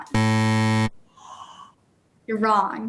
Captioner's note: buzzing